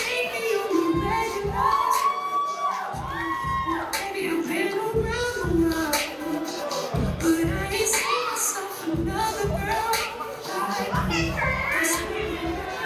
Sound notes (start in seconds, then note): 2.0 applause